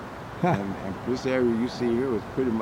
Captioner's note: camera man laughs